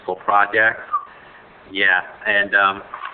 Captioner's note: whistles